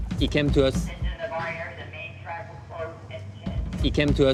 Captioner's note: PA announcement